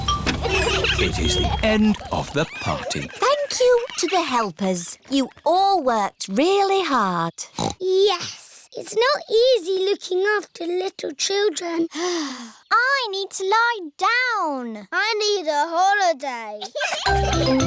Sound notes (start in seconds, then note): 0.0 horns honking; 12.3 sighs; 16.6 all laughing